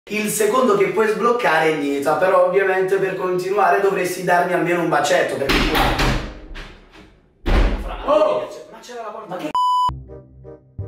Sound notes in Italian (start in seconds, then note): 5.5 bussano alla porta